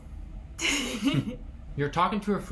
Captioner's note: both laughing